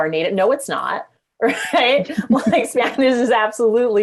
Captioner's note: chuckling